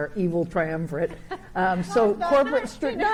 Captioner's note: chuckles